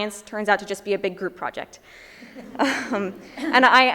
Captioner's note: chuckles